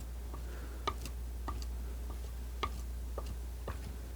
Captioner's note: scratching